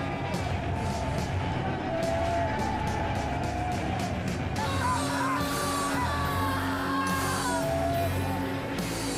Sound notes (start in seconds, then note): 0.6 screams and cries; 4.6 guitar music